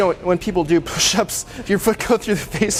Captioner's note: laughs